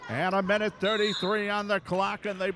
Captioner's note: referee whistling